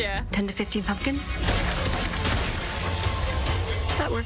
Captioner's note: pumpkins burst; gunfire